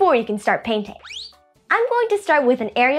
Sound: whistling

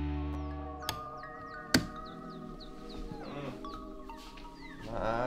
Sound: switch clicking

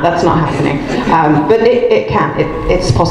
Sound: group laughs

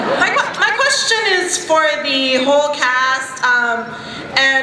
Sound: voiceover

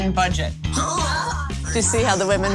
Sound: gasps

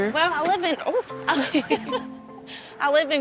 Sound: laughter

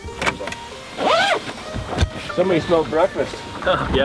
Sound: door opens

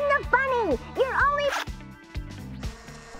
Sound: zipping

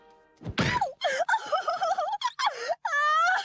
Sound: sobbing

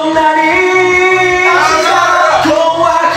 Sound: scared

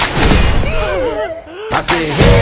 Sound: sigh

